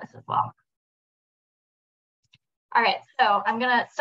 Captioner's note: silence